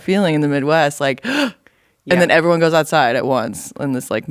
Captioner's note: gasp!